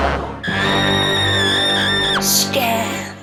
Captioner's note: screaming